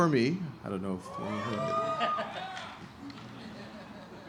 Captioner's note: cheering